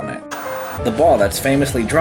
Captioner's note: white noise scratching